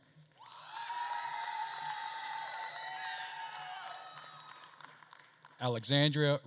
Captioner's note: attendees cheering and applauding